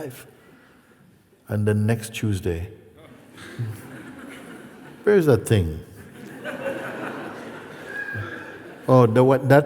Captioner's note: laughter